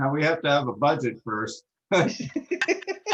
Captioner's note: laughter